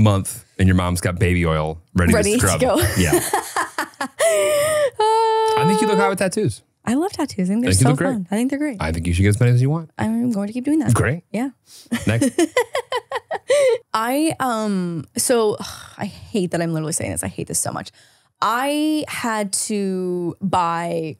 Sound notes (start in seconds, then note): 2.1 laughing; 12.0 laughing